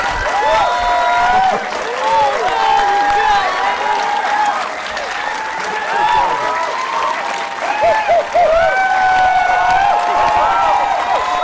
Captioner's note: cheering